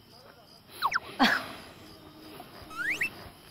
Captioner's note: laughs suddenly